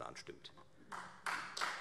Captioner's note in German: Beifall Freie Demokraten